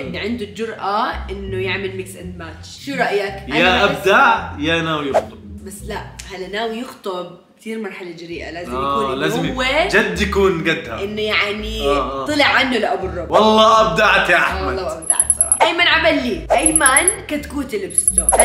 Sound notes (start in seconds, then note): none